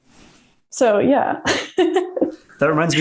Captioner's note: laughs